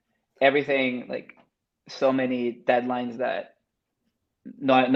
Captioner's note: speaks Spanish